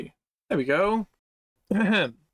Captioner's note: ahem